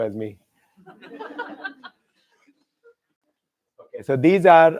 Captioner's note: laughter